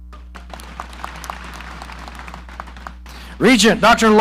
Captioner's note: audience applauding